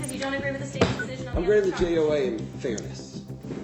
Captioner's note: gavel